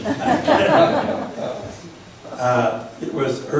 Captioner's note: laughs